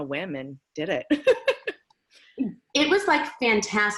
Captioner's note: laughing